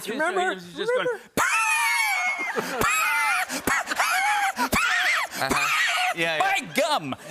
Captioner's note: wheezing laughter